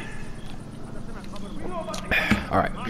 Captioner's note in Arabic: شرب